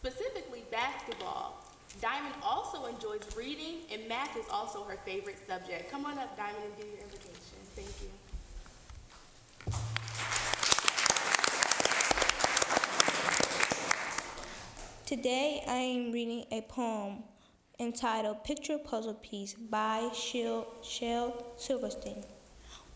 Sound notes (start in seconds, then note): 12.7 applause